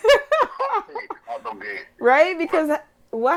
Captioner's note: laughing